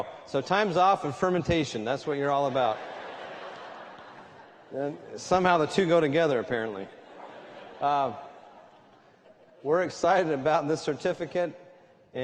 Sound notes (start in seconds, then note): 2.4 laughter